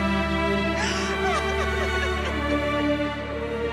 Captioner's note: Crying